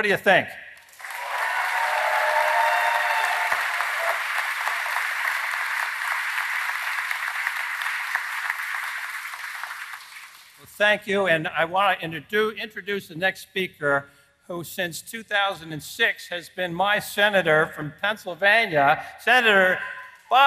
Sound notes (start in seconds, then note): 6.8 applause